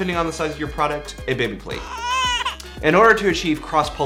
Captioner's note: baby crying